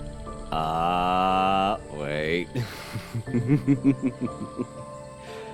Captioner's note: chuckles